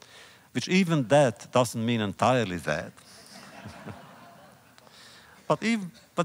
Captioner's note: laughter